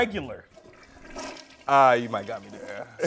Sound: toilet flushing

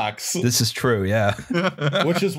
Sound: laughter

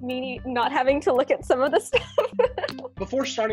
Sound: laughs

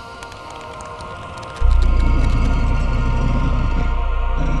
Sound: leather creaking; stone sliding

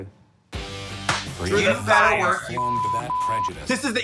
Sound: beep

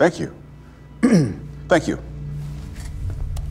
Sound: clears throat

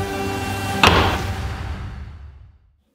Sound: door closing

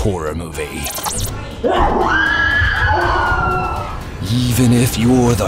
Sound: screaming

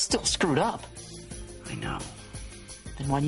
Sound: quietly

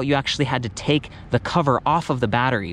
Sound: none

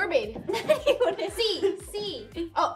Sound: giggles

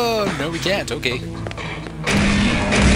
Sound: gunshots

